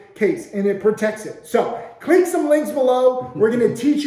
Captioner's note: laughing